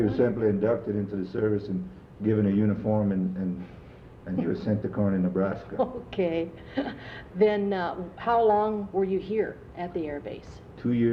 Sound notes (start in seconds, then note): 7.6 laughs